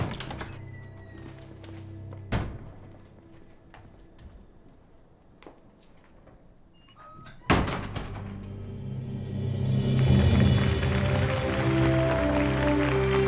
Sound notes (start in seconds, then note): 6.8 door closing; 8.2 melodic cinematic music